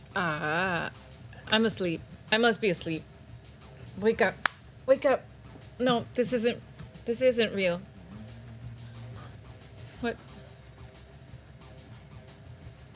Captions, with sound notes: All right, I'm asleep, I must be asleep. Wake up, (claps hands) wake up. No, this isn't, this isn't real. What? (dramatic music)